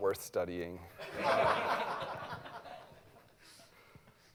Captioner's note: laughter